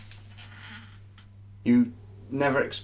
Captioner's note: chair creaking